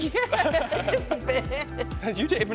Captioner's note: laughter